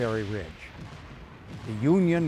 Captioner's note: cannons explode